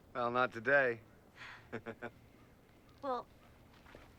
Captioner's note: laughing